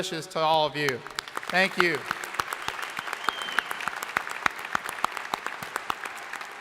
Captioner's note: crowd applauding